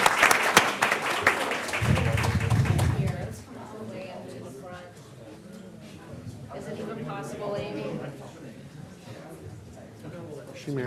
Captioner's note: applause